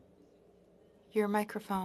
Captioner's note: speaking FRENCH